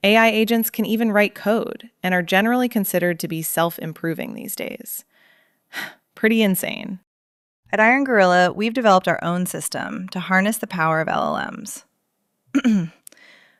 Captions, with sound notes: AI agents can even write code and are generally considered to be self-improving these days. [sighs] Pretty insane. At Iron Gorilla, we've developed our own system to harness the power of LLMs. [clears throat]